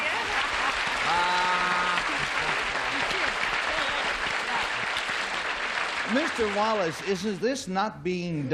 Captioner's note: applause